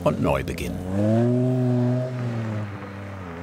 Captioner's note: engine rolling